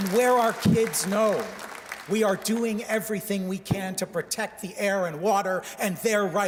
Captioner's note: cheers and Applause